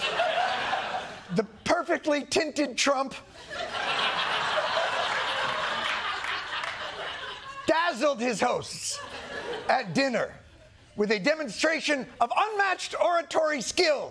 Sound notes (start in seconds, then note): 3.3 laughter